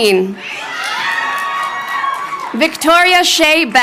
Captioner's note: crowd cheering